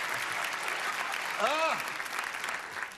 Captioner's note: clapping; laughter